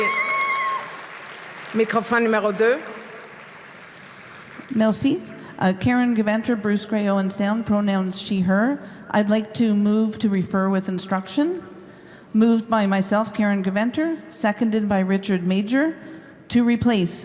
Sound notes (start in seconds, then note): 4.7 cheer and applause